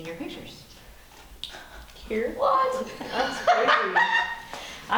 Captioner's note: laughing